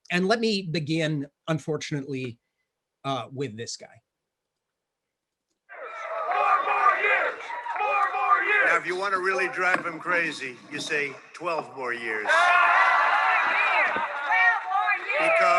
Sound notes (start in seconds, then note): 12.4 audience laughing